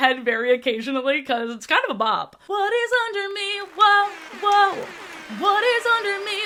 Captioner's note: crowd clapping and airhorn sfx